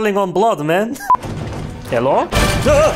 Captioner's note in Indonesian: Tok-tok-tok